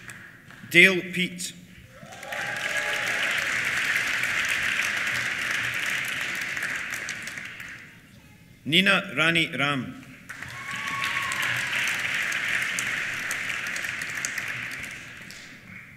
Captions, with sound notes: Dale Peet. (CHEERS) (APPLAUSE) Nina Rani Ram. (CHEERS) (APPLAUSE)